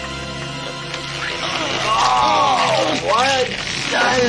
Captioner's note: evil laughing; ripping